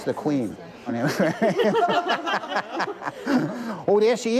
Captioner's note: laughter